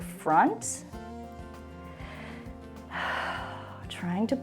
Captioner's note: inhales and exhales